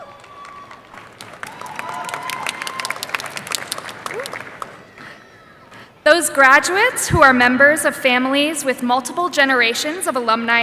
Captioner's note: applause